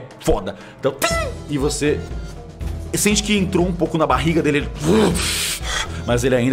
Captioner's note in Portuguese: <i>bufada</i>